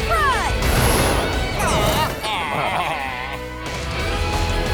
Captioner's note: baaing